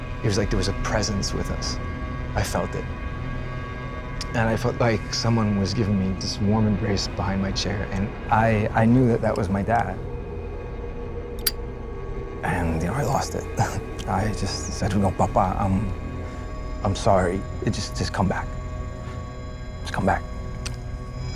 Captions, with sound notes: It was like there was a presence with us. I felt it. And, I felt like someone was giving me this warm embrace behind my chair. And I knew that that was my dad. (lighter clicks closed) And, you know, I lost it. I just said, you know Papa, I'm sorry. It just, just come back, come back.